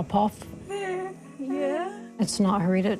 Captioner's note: giggles